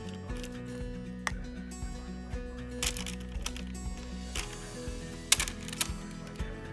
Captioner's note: soft music; paper crinkling